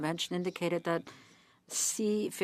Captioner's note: speaking French